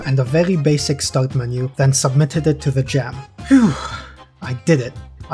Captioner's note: phew